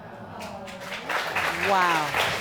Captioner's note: audience applauding